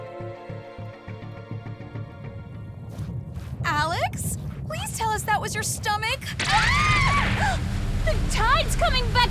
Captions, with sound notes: Alex. Please tell us that was your stomach. [SCREAMING AND GASPING] The tide is coming back in! Chillax. It's all gonna end fine.